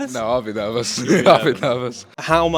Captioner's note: chuckles